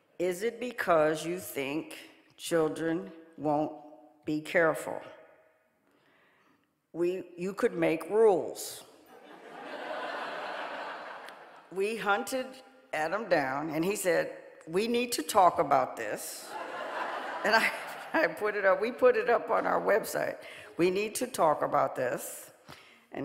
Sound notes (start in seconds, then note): 9.2 audience laughing; 16.5 audience laughing